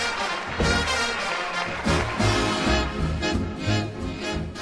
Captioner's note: men cheering